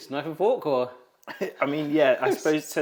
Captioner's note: laughs; host chuckles